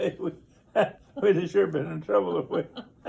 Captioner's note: laughs